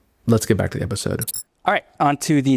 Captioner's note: transition glitching